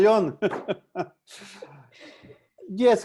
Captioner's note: laughs